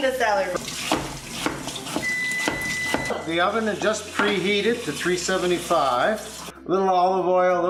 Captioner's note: ding